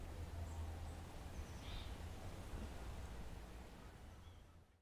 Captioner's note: birds chirping